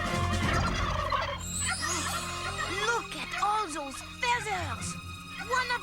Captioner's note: gobbles